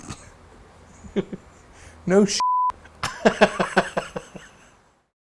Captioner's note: chuckles